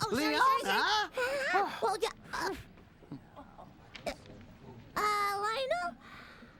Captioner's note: none